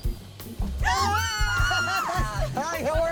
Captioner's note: squeals